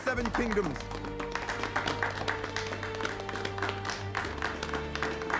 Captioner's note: applause